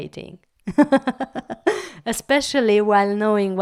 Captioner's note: laugh